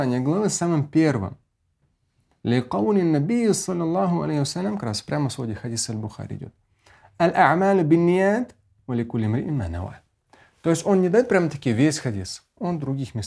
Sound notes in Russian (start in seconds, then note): 2.0 Говорит на арабском; 7.2 говорит на арабском